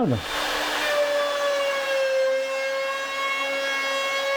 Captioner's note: machine whirs